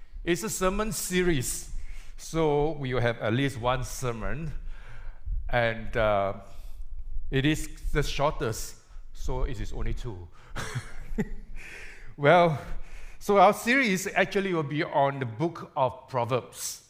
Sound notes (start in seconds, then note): 10.6 chuckles